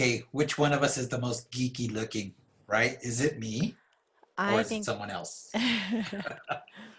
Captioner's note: laugh